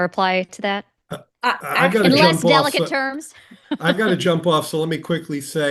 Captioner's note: laughs